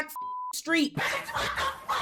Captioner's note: beep; crowd laughing